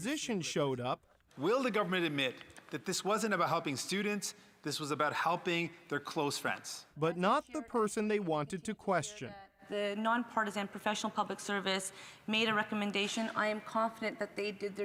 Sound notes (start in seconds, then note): 5.5 speaking french language